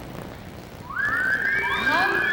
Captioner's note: whistling